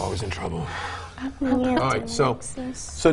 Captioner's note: murmurs